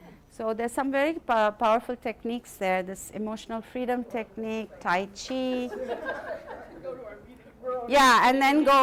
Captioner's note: laughter continues